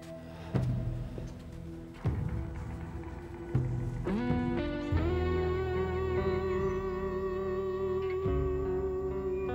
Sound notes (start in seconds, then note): 2.4 birds chirping